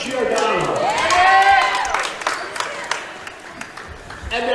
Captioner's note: cheering